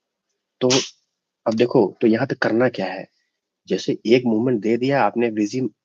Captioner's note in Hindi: नाक से की जाने वाली आवाज़